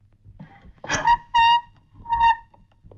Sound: chair creaks

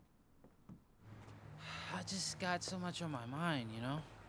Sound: sighs

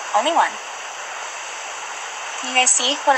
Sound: background ocean sounds

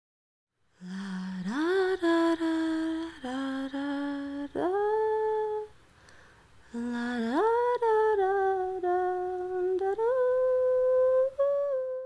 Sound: humming

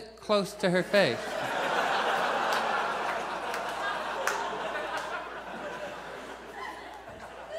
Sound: audience laughs

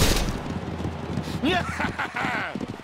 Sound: triumphant chuckles

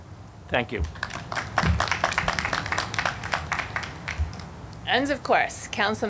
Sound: audience clapping

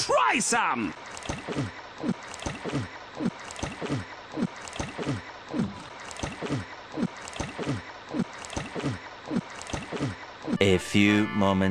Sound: gulping noises

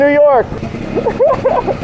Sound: engine growling; laughs

